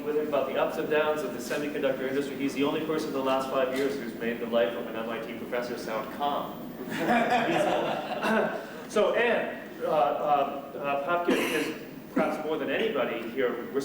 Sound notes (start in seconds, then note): 6.8 laughter